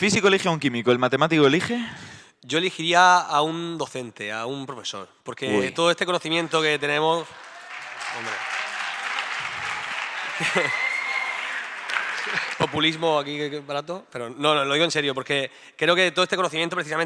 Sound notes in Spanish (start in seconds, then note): 11.3 Aplausos